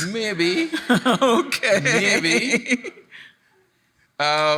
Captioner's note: laughs